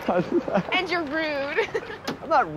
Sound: laughs

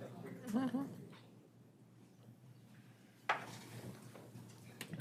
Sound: attendee chuckles

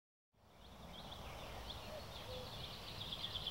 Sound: birds chirping

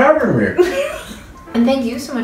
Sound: laughs

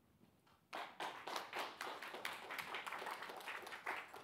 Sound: audience applauds

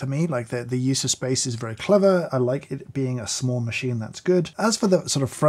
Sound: none

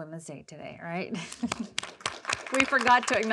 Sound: attendees applauding

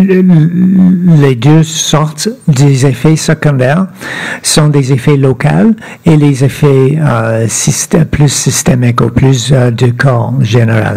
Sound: speaking French

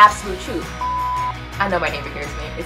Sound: beep

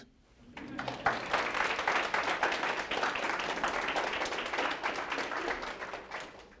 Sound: applause

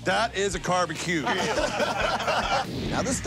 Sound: laughter

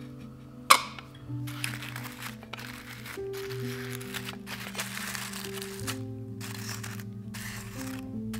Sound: rose petals crackle and rustle against fingers

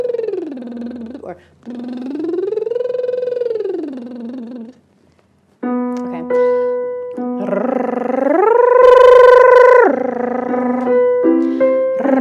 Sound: buzzing

